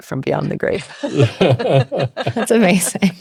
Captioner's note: both laughing